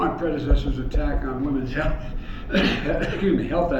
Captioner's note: coughs